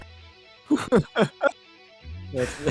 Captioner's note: multiple people laugh; laughs